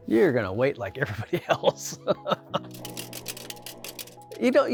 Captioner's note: laughs